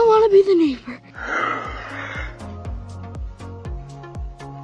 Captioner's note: growls